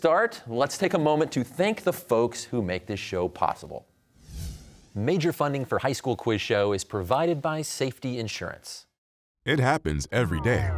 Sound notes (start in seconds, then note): none